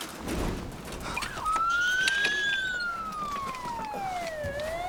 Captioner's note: sirens approaching